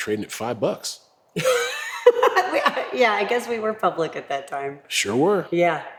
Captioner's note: laugh